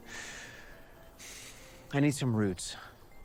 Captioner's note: exhales